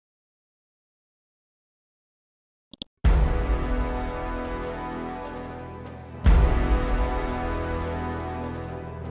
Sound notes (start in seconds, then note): 2.7 mouse clicks; 3.2 dramatic chord